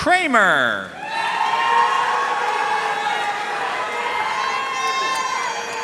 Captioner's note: audience cheering and applauding